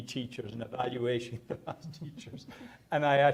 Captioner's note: speaking off mic